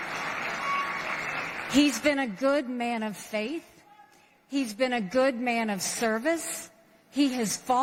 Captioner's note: applause